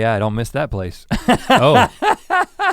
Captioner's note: laughs